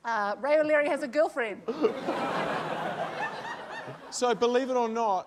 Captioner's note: laughter